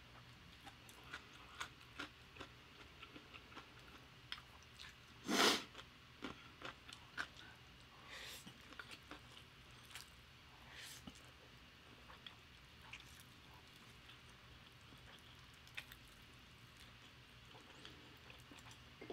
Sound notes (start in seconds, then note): 5.2 sniff